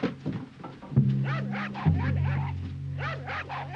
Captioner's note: jack barking